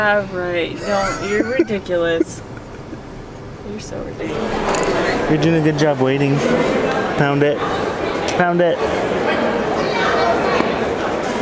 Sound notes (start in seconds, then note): 0.8 laughing; 4.9 noisy airport crowd sounds